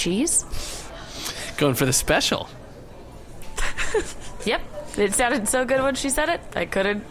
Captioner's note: laughing